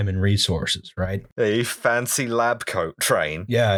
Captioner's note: worker voice